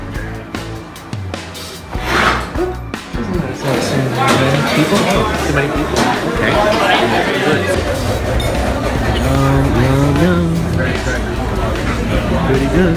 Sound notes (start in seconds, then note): 1.9 chair dragging; 5.3 chatter; 10.5 humming